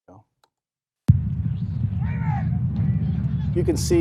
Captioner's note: shouting